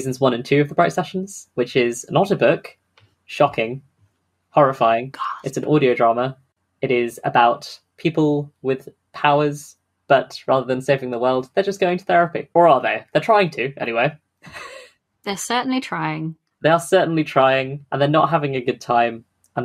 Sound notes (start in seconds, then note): 14.5 laughs